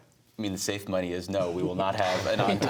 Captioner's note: laughter